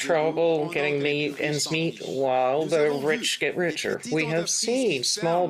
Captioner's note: speaking French